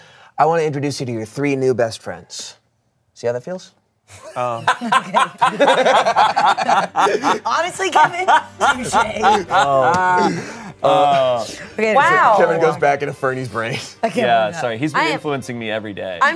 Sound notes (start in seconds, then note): 4.2 everyone laughs